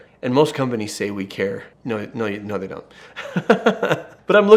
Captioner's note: laughs